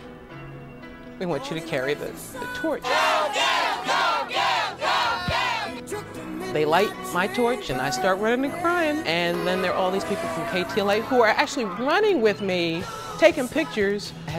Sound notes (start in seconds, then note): 2.8 crowd